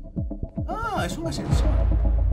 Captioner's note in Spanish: Sorprendido